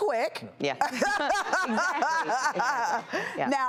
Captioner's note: laughing